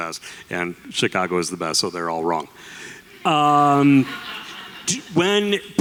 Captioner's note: audience laughter